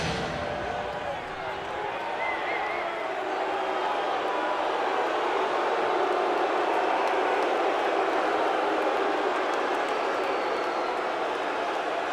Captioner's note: crowd cheering